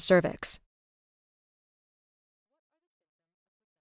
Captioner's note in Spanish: silencio